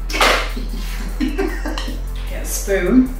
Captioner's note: laughs